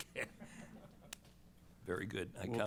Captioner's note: laughter